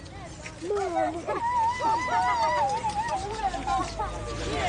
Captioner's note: children hooting